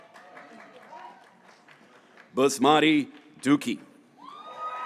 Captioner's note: graduates cheering